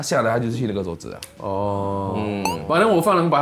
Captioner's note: Ohh